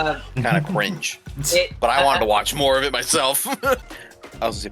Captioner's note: laughs